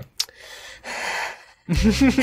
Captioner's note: exhales; inhales; lols